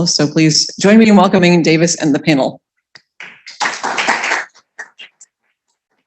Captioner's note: applause